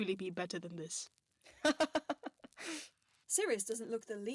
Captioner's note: Remus laughs